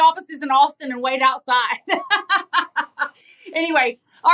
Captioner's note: laugh